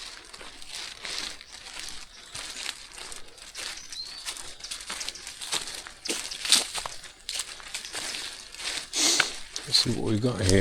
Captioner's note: footsteps